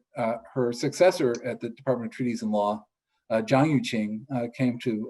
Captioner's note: speaks foreign